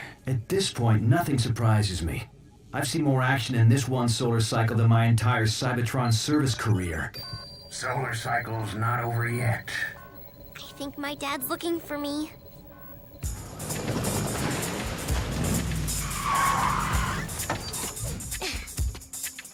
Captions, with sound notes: At this point, nothing surprises me. I've seen more action in this one solar cycle than my entire Cybertron service career. (ALARM SOUNDING) Solar cycle's not over yet. I think my dad's looking for me.